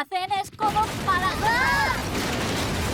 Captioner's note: crash; girls shriek